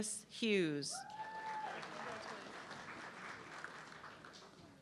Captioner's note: audience clapping